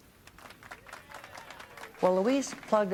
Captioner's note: applause